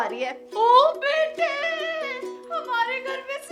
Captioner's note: excited